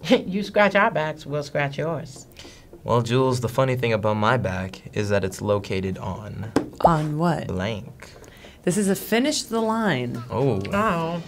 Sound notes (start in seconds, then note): 6.1 window popping